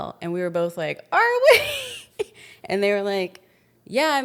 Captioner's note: laughs